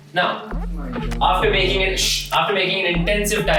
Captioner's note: shush